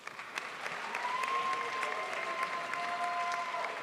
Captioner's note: crowd applauds